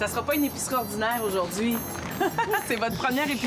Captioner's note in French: rires